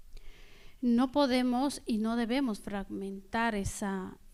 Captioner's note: speaking spanish